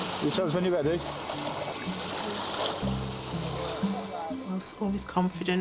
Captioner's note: water whooshing